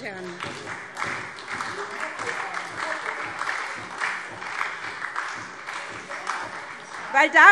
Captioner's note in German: Beifall SPD und Freie Demokraten - Zurufe